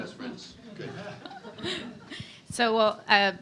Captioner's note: laughs